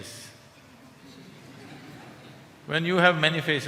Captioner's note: laughter